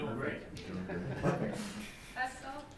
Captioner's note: laughing